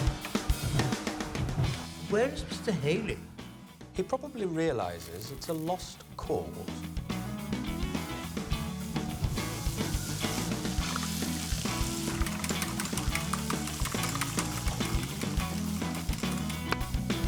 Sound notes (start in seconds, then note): 1.7 upbeat music; 7.7 upbeat music; 8.3 pan sizzling